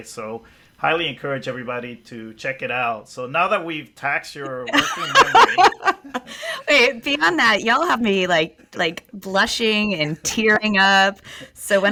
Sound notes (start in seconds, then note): 4.4 laughs